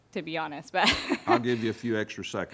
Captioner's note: laughs